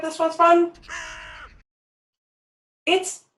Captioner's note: raven craws